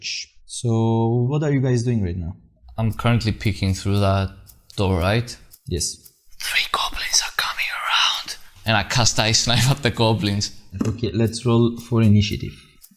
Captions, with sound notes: -So what are you guys doing right now? -I'm currently peeking through that door, right? -Yes. *whispering* Three goblins are coming around... -...and I cast Ice Knife at the goblins. -Okay, let's roll for initiative.